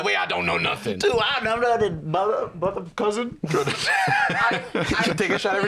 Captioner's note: laughs